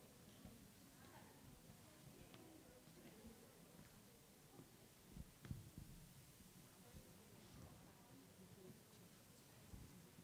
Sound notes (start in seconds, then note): none